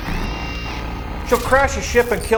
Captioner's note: electronics beeping